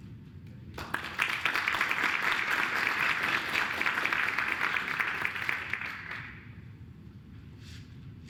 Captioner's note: applause